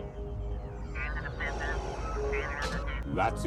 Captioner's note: strange signal noises